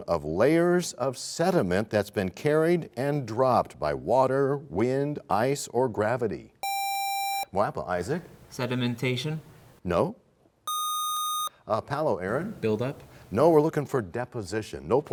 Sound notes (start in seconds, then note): none